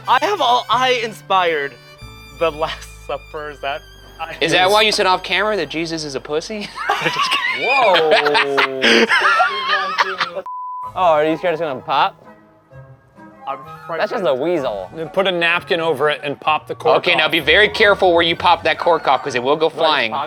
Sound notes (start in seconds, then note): 6.6 laughing; 10.6 scene beeping